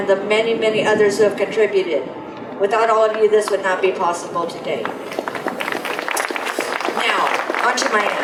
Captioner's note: applause